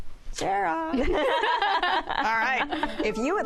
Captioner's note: laughter